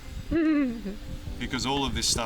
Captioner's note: giggling